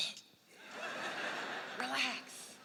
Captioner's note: laughter